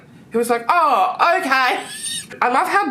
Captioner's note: laughs